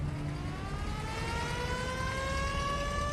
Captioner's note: ambulance siren wailing